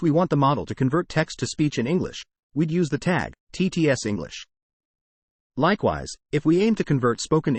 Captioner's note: TTS English